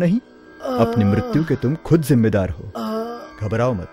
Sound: groans

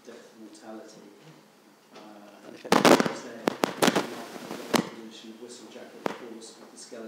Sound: speaking faintly

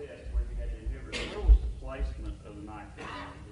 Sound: coughing drowns out speaker

